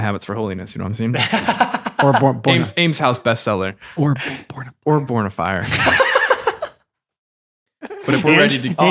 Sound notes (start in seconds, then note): 1.2 laughing; 5.8 laughing